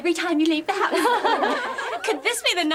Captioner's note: laughter